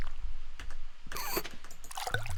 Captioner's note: wheeze